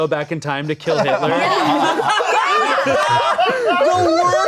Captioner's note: everyone laughing